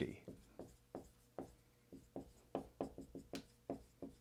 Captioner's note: pen scratching